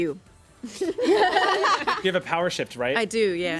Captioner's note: everyone laughs